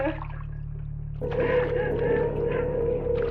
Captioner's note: water pouring